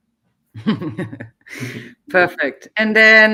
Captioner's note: laughing